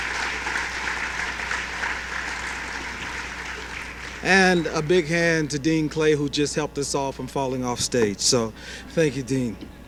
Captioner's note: applause